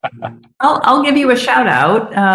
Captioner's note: laughs